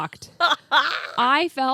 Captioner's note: laughs